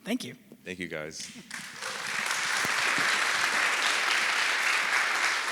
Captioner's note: audience applauding